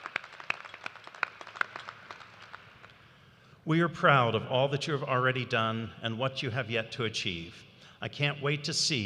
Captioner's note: cheers and applause